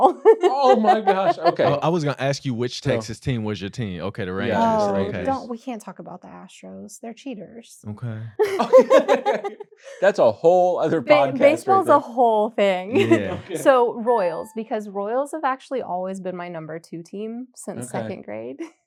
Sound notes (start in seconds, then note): 8.4 laughter